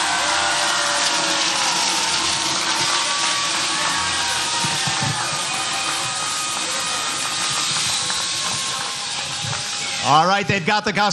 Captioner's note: applause